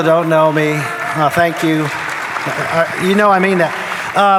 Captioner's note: audience applauding